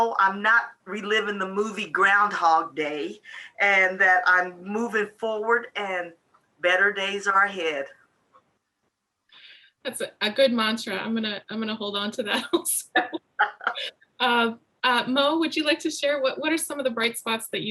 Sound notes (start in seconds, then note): 12.9 laughs